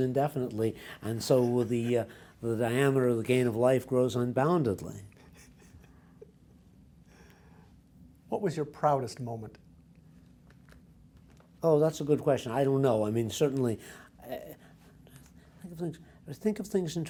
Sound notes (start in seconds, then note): 5.1 laughs